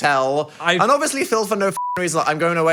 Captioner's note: beep